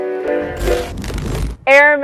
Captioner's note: television static